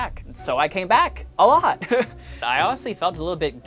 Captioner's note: laughs